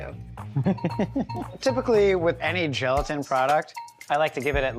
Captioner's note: laughs